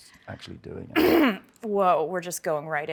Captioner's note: clears her throat